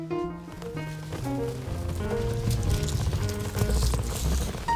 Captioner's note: balloons rustling